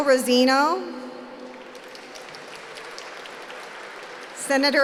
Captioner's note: applause